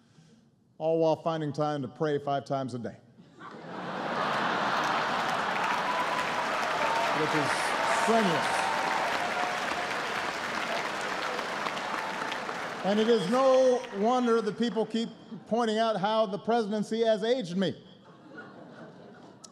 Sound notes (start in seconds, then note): 3.2 laughter; 8.0 laughter and applause